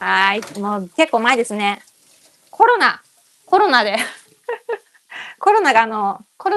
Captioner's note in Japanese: 笑い